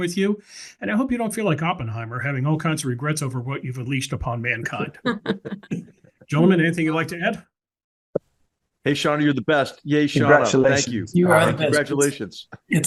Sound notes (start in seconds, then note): 4.6 laugh